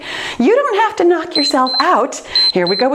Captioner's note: timer beeps